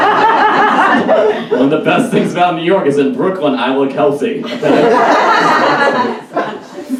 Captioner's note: audience Laughs